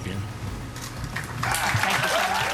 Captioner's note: crowd clapping